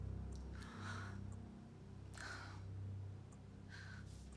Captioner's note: Molly sighs